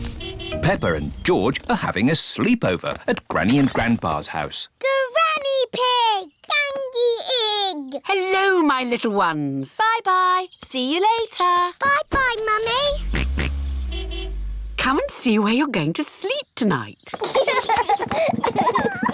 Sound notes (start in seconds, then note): 12.6 george oinks; 12.6 car horn honks; 17.1 children laugh